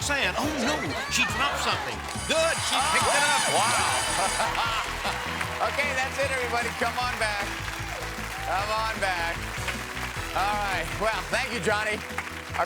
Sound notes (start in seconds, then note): 2.0 alarm blares